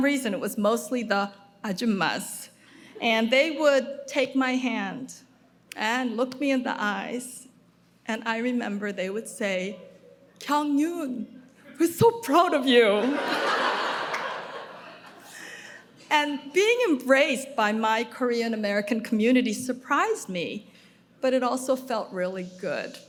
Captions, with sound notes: for some reason it was mostly the ajummas and they would take my hand and look me in the eyes and I remember they would say "Kyung Yoon we're so proud of you." (audience laughing) Being embraced by my Korean American community surprised me, but it also felt really good.